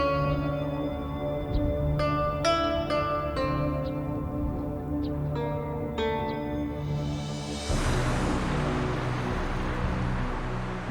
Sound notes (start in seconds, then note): 7.6 cars rumbling